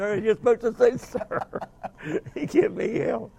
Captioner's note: laughing